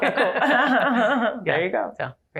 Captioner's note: laughter